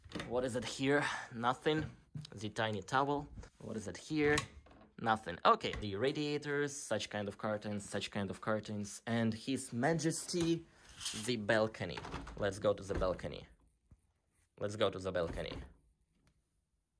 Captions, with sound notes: What is in here? Nothing. The tiny towel. What is in here? Nothing. Okay, the radiators. Such kind of curtains, such kind of curtains. And his majesty, the balcony. (door rattles) Let's go to the balcony. Let's go to the balcony. (door rattles)